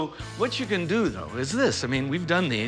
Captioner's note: none